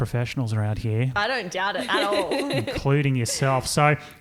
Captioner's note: laughing